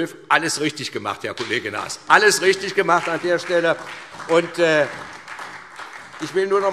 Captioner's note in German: Beifall SPD